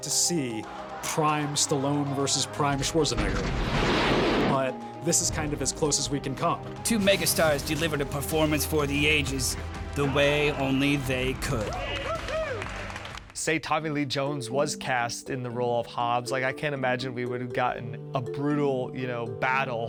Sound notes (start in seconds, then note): 11.6 crew cheering